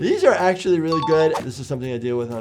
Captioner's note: bell dinging; screen beeping